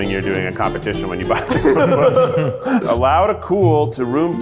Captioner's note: laughter